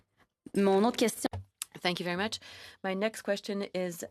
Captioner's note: speaking FRENCH